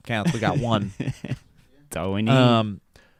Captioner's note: laughs